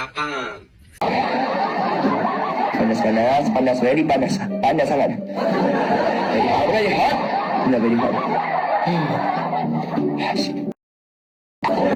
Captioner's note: laughing sounds